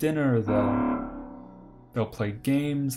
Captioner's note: alarm sound